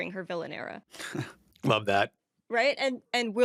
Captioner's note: chuckles